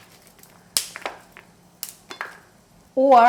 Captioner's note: snapping